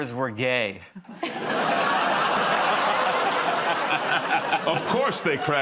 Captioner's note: laughter